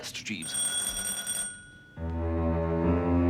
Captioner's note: doorbell